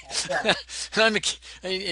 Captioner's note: laughs